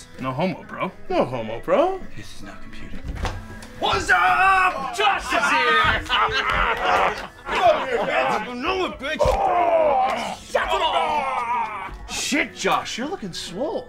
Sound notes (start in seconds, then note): 4.7 laughing